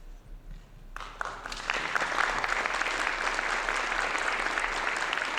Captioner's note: audience applauding